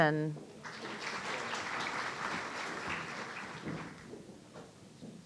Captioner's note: audience applauding